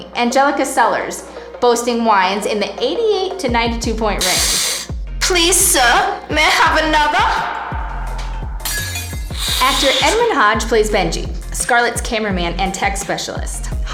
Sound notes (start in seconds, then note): 4.2 slurps; 8.6 glass breaking